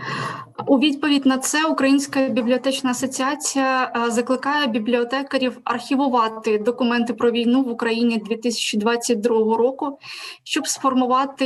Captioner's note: foreign Language